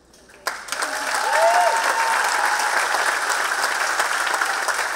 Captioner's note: audience cheering and clapping